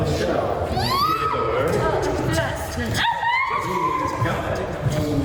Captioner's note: screams